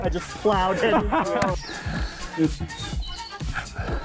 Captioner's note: laughing